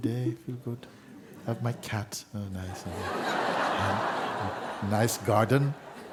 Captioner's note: laughter